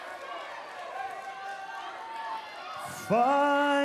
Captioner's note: cheers and applause